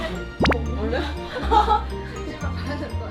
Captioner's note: wobbling